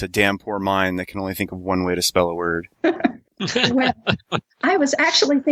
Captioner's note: laughter